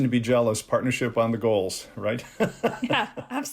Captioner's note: laughter